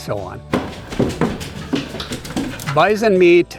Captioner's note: feet clacking